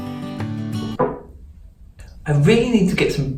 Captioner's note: mug thudding on table